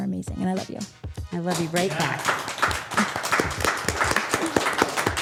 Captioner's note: group clapping